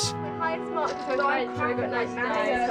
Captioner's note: children chattering